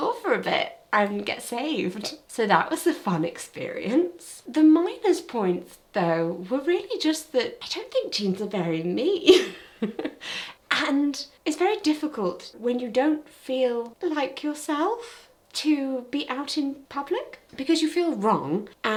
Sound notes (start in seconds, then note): 9.3 laughs